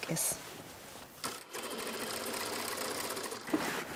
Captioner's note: rattling of the sewing machine